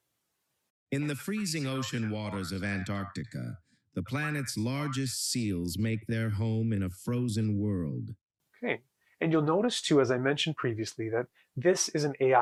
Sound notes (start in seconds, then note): 0.7 AI speech